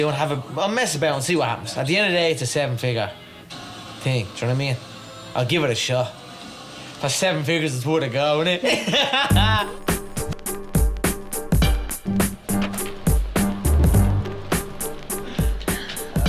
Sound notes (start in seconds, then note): 8.6 laughing; 11.1 energetic music